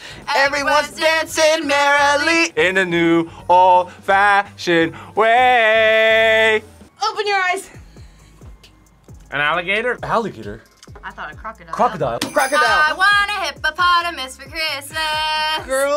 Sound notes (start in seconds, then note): 12.2 bells jingling